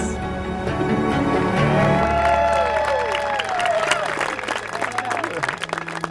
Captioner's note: people cheering and applauding